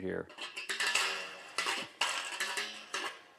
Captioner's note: creaking